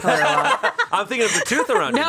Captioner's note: everyone laughs